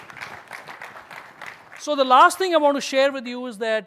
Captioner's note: applause